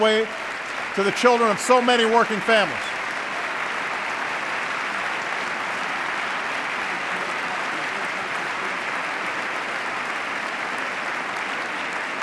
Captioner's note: applause